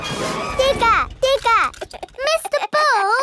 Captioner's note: chuckles